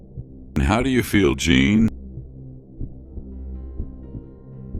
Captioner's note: dark sounds